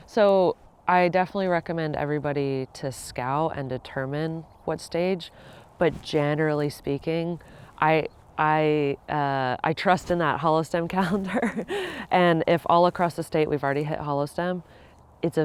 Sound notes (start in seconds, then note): 11.1 laughs